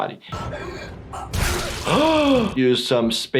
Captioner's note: gasps